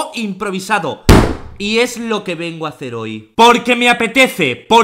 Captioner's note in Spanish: Golpe a la mesa :v